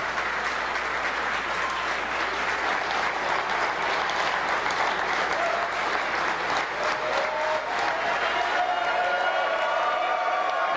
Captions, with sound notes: [APPLAUSE] OF THE MICROPHONE NOW AND LET'S TAKE A LISTEN. [ CHEERING AND APPLAUSE ]